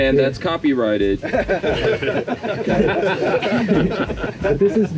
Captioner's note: laughter